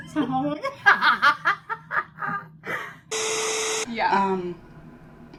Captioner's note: laughter